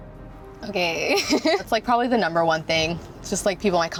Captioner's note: laughs